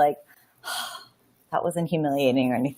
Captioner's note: breathing out